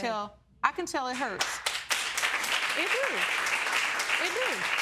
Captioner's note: audience applauding